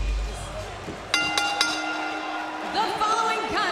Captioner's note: bell ringing